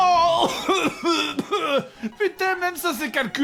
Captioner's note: coughs